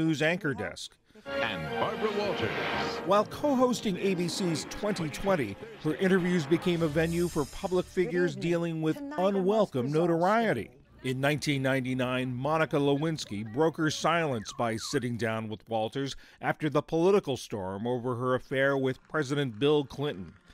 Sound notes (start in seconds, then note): 3.0 voice-over